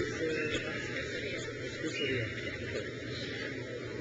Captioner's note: crowd cheers